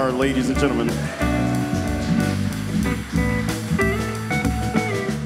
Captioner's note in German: applaus